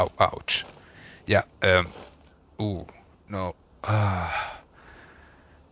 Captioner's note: sigh